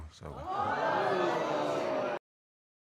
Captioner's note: audience exclaiming